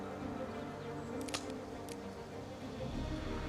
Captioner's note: cocks rifle